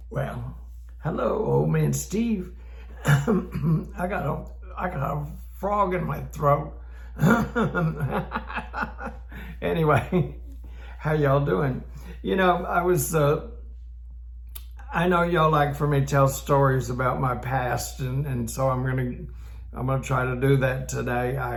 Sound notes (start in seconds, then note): 3.0 clears throat; 5.8 clears throat; 7.2 laughs